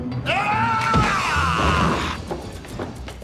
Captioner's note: yelling